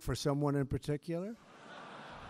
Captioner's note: laughter